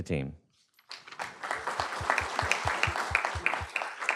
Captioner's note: applause